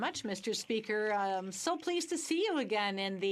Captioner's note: speaking French